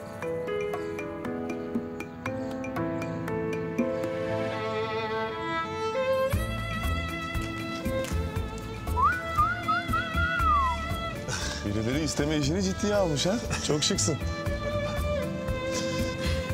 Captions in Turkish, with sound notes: (Duygusal müzik) (Islık çalıyor) Birileri isteme işini ciddiye almış demek. Çok şıksın.